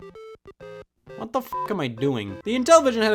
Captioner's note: video game beeps; beep